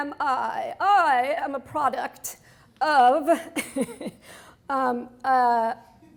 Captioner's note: laughs